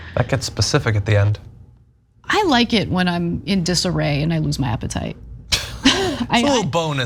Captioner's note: laugh